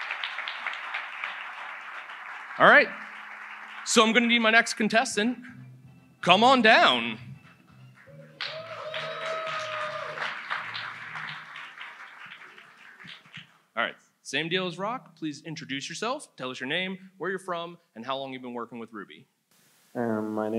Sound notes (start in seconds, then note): 0.0 audience applauds; 8.0 audience cheers